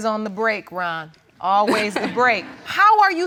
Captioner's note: all laughing